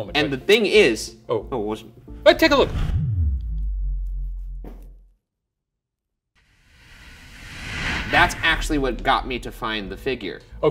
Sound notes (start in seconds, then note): 4.5 muffled thud